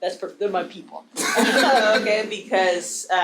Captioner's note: audience laughing